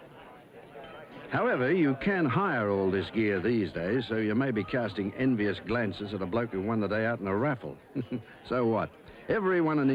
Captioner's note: giggle